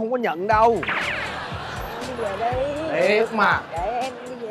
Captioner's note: laughing